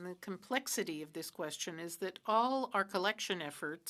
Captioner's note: speaking French